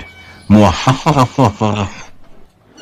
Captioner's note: Bradley Evil Laugh